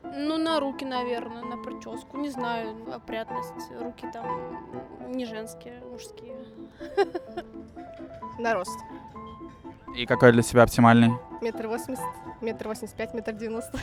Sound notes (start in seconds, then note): 6.7 laughter